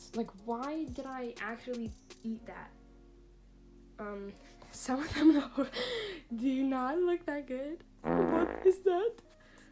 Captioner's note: fart sound